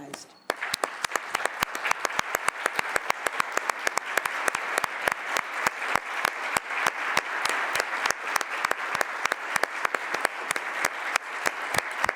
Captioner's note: applause